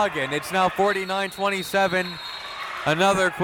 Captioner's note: whistle tweeting